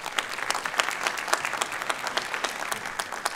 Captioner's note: applause